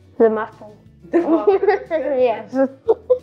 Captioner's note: laughs